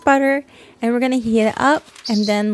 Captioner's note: chirp